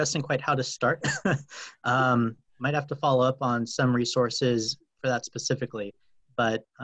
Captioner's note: laugh